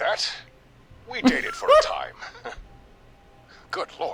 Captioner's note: laughing